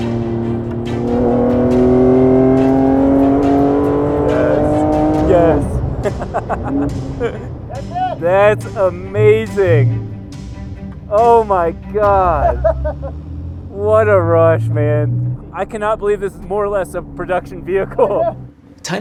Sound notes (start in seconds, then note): 5.1 laughs; 11.9 laughing